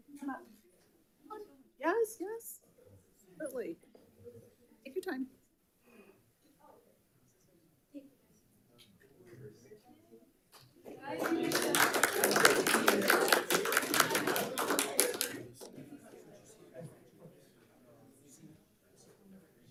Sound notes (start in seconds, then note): 10.9 attendees applauding